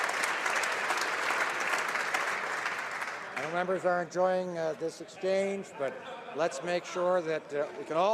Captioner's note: some Applause